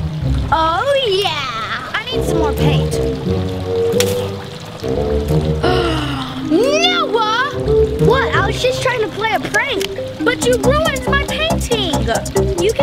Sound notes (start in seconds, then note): 3.8 splashing; 5.6 gasps